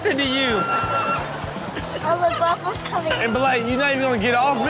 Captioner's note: audience laughs